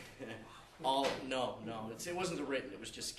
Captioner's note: background laughter